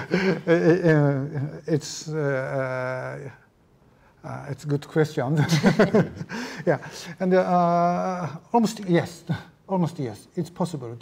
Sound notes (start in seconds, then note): 3.4 laughing